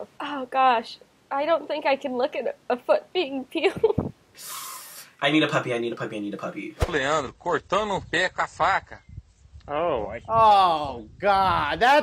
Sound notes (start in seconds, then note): 4.4 sighs; 7.0 man speaks in foreign language